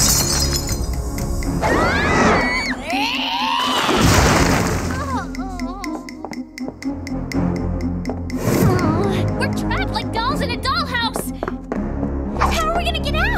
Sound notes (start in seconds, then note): 1.6 screaming